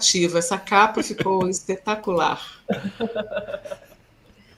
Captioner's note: laughs